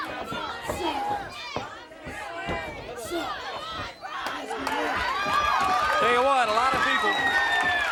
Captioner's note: crowd chatter